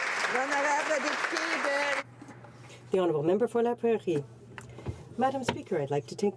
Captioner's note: some Applause